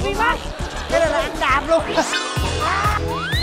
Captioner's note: laughing